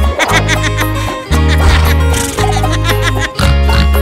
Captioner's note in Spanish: Música alegre; Sonido de relincho; Música alegre; Sonido de chancho